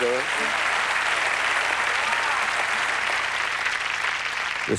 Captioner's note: applause